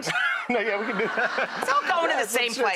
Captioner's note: laughing